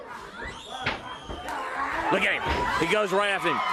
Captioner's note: crowd cheering